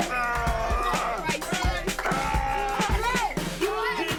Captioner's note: pastor grunting